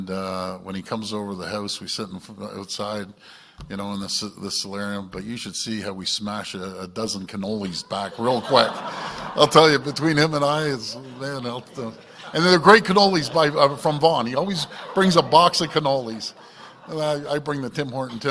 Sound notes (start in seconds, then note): 13.2 laughter